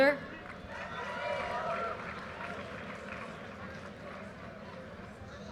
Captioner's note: audience cheers and applause